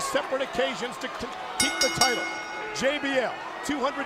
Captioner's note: bell dinging